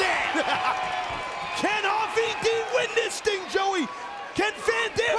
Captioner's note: laughs